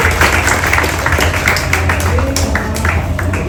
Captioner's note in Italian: applauso